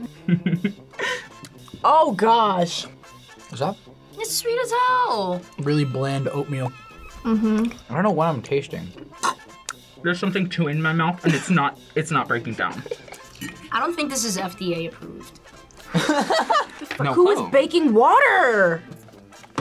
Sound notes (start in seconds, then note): 0.0 laughs; 9.4 gags; 16.1 laughs